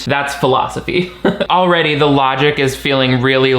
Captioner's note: chuckles